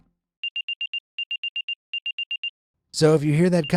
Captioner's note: continuous beeping